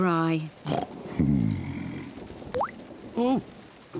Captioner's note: oinks